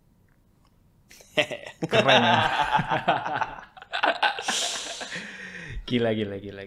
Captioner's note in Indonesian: tertawa